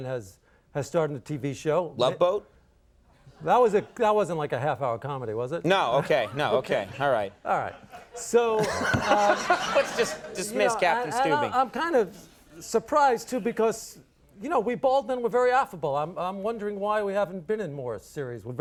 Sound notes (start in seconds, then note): 3.5 audience laughs; 8.4 Conan laughs